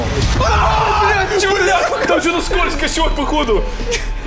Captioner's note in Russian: крик